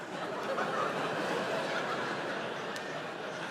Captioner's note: audience laughs